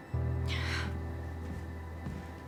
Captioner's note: sighs; somber music